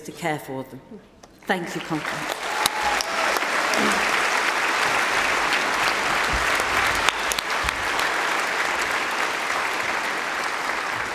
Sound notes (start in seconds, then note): 8.4 applause